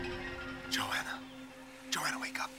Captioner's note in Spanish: Susurrando